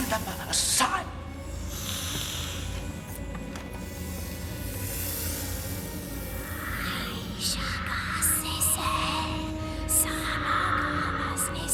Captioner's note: Nagini hisses